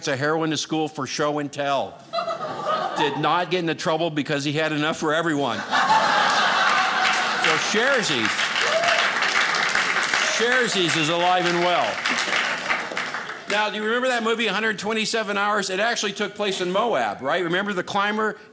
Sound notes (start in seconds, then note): 5.5 audience laughing; 12.0 audience applauding